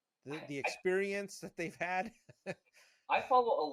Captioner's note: laughing